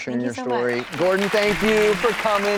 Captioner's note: applauding